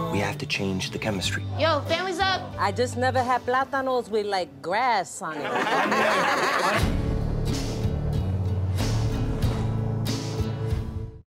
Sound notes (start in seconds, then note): 5.4 laughter